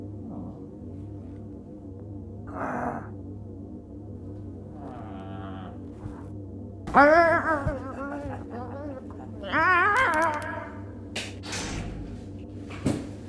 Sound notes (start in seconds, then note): 7.1 shouting